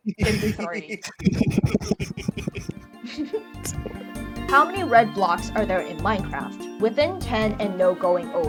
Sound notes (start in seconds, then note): 0.0 laugh